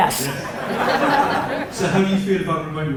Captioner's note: audience laughter